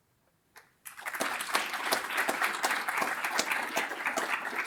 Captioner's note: audience applauds